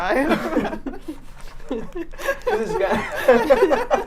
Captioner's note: all laughing